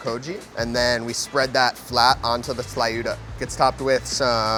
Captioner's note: speaks Spanish